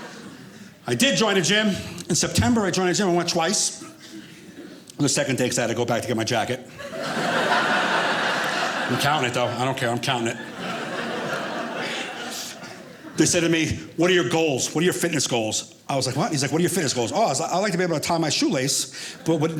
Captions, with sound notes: I did join a gym in September. I joined a gym and went twice. The second day because I had to go back to get my jacket. (audience laughing) I'm counting it though. I don't care I'm counting it. They said to me, "What are your goals? "What are your fitness goals?" I was like, what? He's like, "What are your fitness goals?" Oh, I'd like to be able to tie my shoelace but not